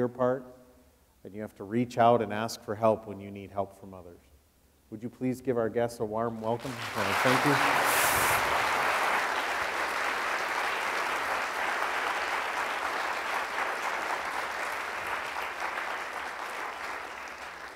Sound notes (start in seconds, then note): 10.1 audience applauding